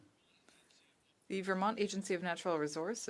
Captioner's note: speaking French